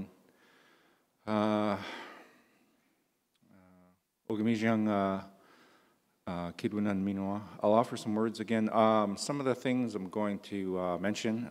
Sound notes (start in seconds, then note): 7.1 in English